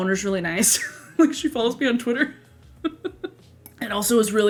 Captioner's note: laughs